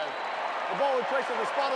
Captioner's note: cheering